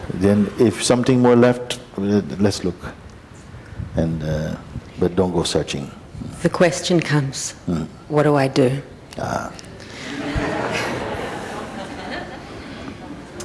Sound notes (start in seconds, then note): 10.0 laughter